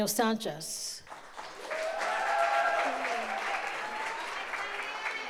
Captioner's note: audience applauds